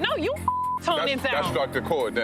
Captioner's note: beep